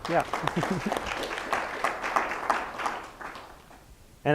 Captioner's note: applause